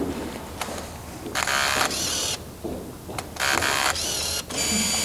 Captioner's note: gears turning